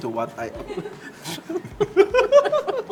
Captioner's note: laughs